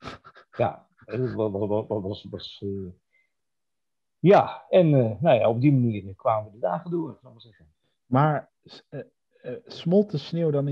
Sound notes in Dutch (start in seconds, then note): 1.1 gelach